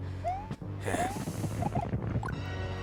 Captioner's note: sigh